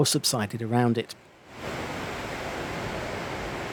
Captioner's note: sound of rushing water